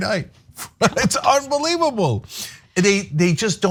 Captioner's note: laugh